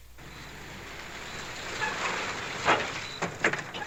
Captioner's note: engine revs